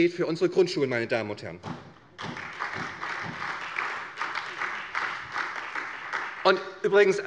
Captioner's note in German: Beifall bei der SPD